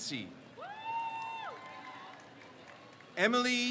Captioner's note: crowd cheers